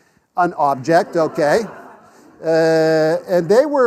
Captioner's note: class laughs